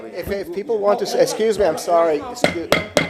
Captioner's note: sounding gavel